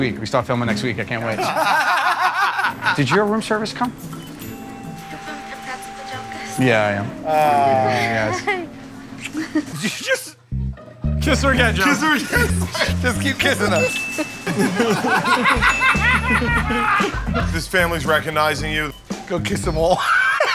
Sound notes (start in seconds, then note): 1.3 laughter; 13.7 ding!; 14.1 laughter